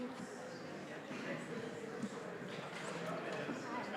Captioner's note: general chatter